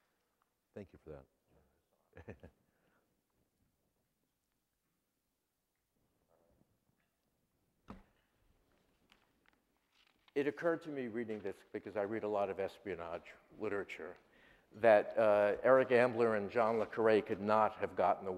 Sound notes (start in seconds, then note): 2.1 laughs